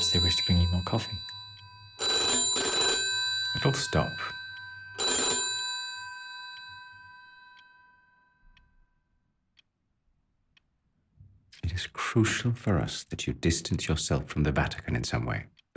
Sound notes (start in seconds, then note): 5.1 phone ringing continues; 7.6 clock ticking